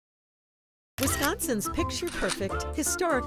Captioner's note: camera clicking